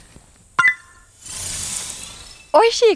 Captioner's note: click